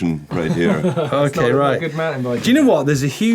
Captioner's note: laughs